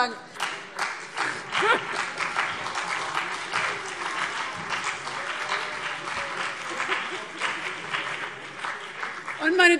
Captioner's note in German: Beifall CDU und BÜNDNIS 90/DIE GRÜNEN